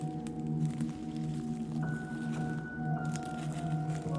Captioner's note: footsteps